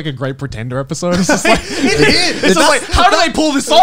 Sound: laughing

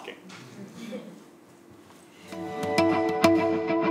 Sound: laugh

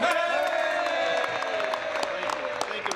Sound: some Applause

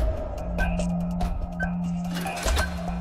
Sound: beeping

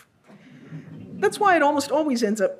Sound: audience laughs

